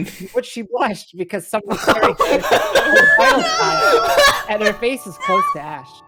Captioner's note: everyone in the background laughing